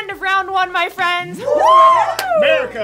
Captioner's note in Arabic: كل الهتاف